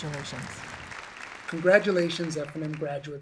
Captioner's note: audience applause